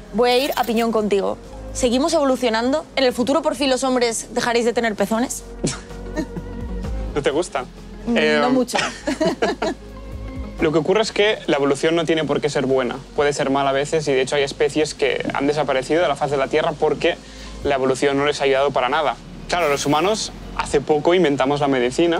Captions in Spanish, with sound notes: Bueno, voy a pión contigo. ¿Seguimos evolucionando? ¿En el futuro por fin los hombres dejaréis de tener pezones? (Risas) ¿No te gustan? No mucho. Lo que ocurre es que la evolución no tiene porque ser buena. Puede ser mala a veces de hecho hay especies que han desaparecido de la faz de la tierra porque la evolución no les ha ayudado para nada. Los humanos hace poco inventamos la medicina